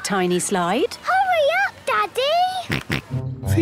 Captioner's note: George snorts